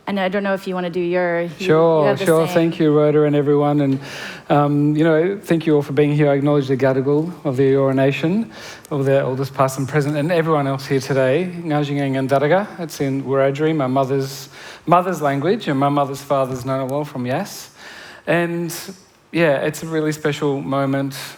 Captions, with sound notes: And I don't know if you want to do your -- >> Sure, sure. Thank you for everyone and, you know, thank you all for being here. I acknowledge the Gadigal of the Eora Nation of their elders past and present and everyone else here today. [Foreign language]. That's in Wiradjuri, my mother's language and my mother's, father's [foreign language], yes? And, yeah, it's a really special moment.